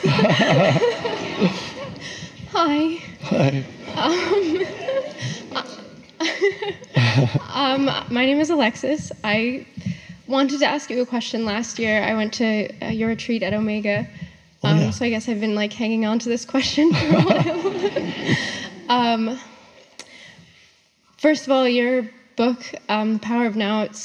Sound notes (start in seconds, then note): 0.0 audience laughs; 4.7 audience laughs; 16.9 laughs